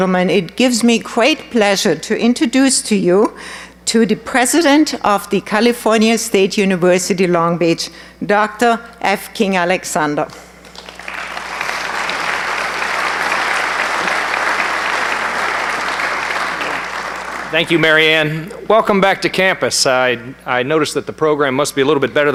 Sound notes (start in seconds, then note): 10.6 applause